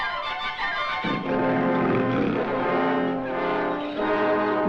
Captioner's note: jaguar roars